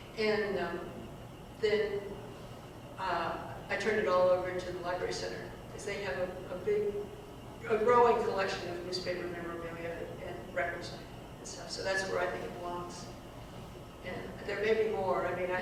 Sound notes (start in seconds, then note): none